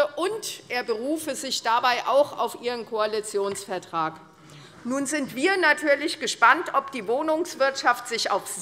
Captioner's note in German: none